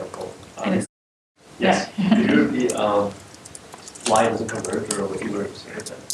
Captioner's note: laughter